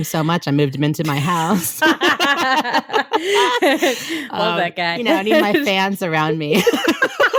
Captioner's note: laughs